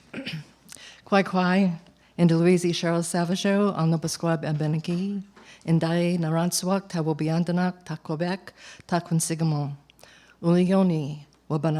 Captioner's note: non-english speech